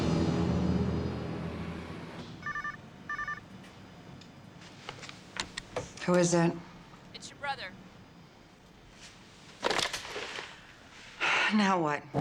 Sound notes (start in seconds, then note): 2.4 phone ringing; 11.2 sighs